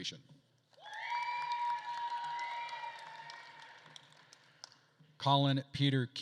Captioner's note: attendees cheering and applauding